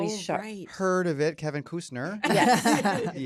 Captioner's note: laughter